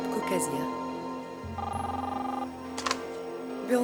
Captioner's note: phone ringing